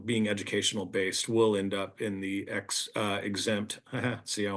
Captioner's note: chuckles